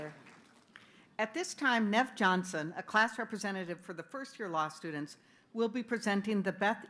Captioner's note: applause